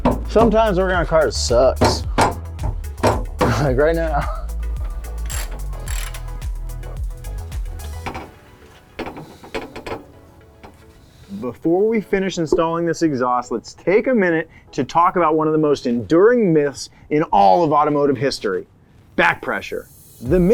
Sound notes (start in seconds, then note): 3.4 chuckles